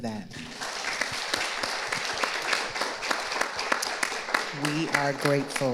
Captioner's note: audience applauding